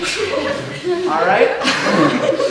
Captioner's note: audience laughing